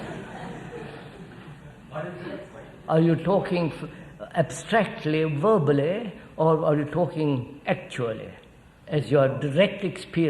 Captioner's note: laughter